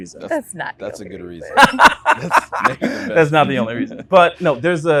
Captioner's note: laughs